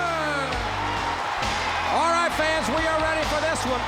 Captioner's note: crowd cheers